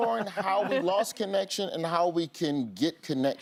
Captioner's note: laughter